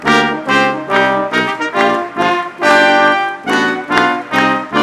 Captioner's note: audience clapping